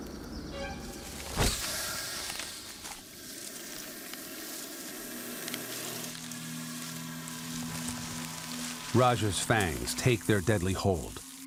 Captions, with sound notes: (light dramatic music) (snake hisses) Raja's fangs take their deadly hold,